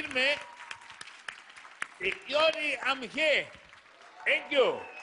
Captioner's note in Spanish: Aplausos